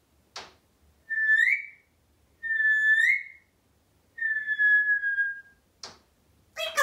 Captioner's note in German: whistling